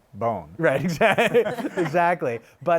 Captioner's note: laughs